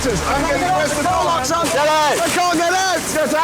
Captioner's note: panicked shouting